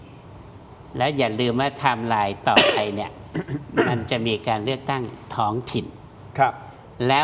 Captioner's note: clears throat